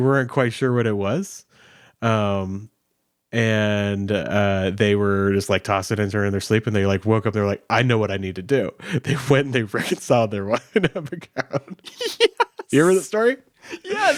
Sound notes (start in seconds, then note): 10.4 both laughing